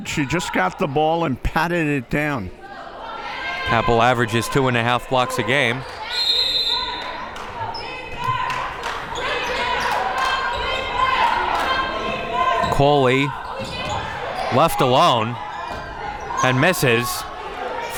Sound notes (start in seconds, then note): 6.1 whistle blows; 11.5 hands clapping